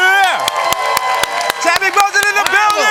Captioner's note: cheering